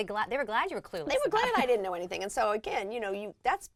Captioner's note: laugh